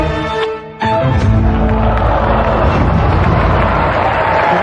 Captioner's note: audience gasps in surprise